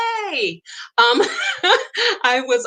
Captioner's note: laughs